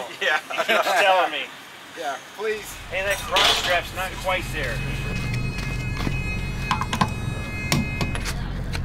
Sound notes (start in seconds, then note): 3.7 whirring